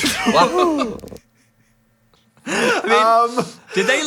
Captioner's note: both laughing